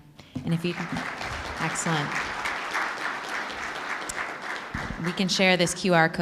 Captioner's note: applause